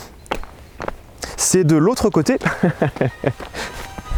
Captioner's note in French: rire bête